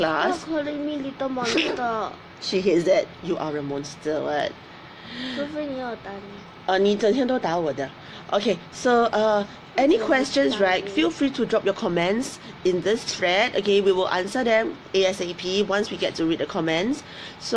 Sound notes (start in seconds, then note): 1.4 laughs; 5.7 speaks in foreign language